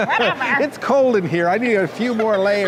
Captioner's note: chuckling